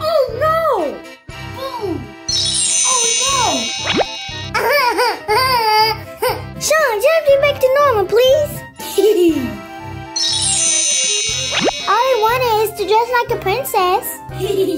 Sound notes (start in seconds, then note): 2.3 twinkling; 4.5 laughing; 8.9 laughing; 10.2 twinkling